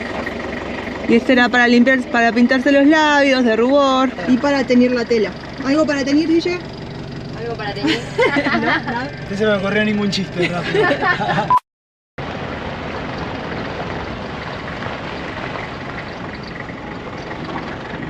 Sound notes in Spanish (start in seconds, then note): 10.4 risas